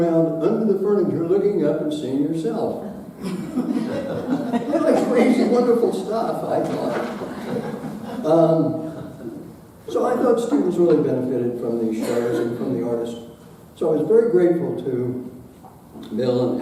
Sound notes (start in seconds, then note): 3.2 audience laughing